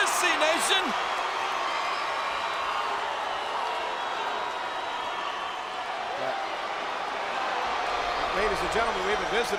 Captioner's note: applause